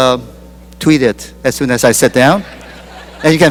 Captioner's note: laughter